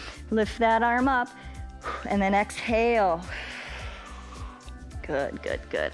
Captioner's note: exhales